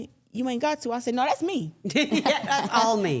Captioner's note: everyone laughs